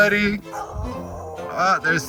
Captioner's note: a dog howls